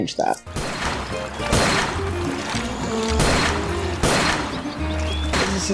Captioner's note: gunshots and water splashing